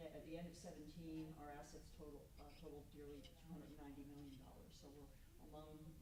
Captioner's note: stammers